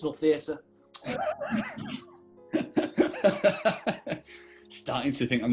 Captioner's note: giggling and laughing